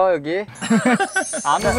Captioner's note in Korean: 꺄르르